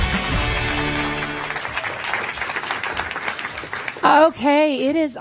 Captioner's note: applause